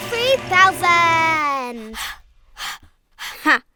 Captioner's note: panting